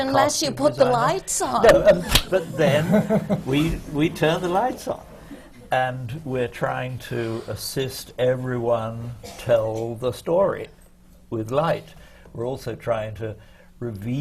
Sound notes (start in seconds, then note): 1.6 laughter